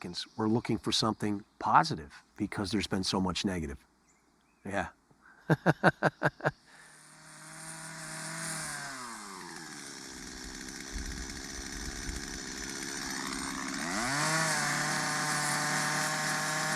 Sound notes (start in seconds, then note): 5.3 chuckles; 7.1 chainsaw buzzing